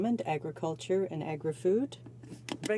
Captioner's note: speaking French